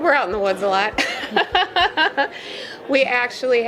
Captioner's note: laughing